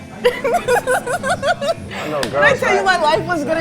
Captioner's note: laughing